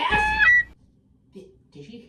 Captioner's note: honk